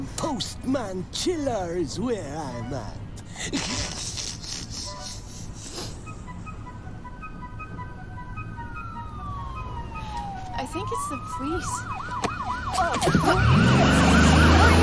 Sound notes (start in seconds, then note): 3.3 snickers; 6.4 siren wailing